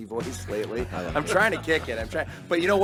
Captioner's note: group laughing